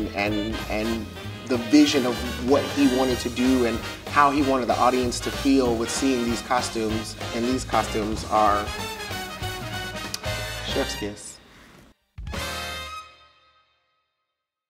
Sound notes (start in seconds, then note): 9.9 kissing fingers